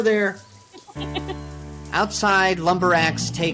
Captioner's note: Steph laughing